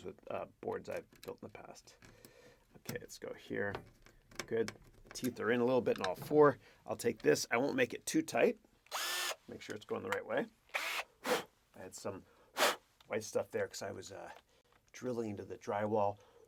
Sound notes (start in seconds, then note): 8.8 power drill whirring